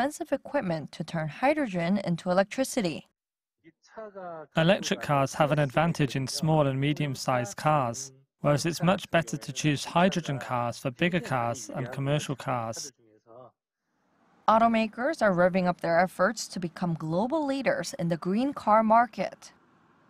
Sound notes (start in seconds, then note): 3.5 Korean